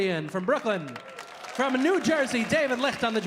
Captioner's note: audience applauding